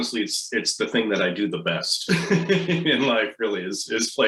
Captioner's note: laughs